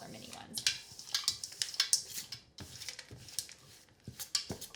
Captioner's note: stirring